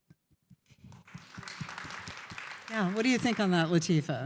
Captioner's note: applause